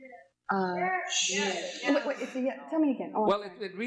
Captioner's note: audience shouts